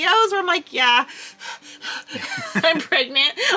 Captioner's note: panting